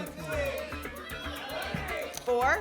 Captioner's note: audience shouting numbers